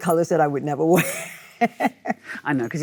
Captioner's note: Michelle laughs